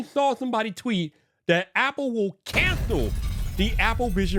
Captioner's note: thunderous crash